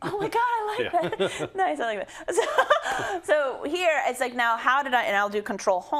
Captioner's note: laugh